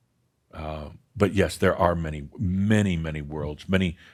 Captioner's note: none